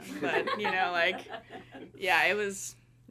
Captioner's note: everyone laughing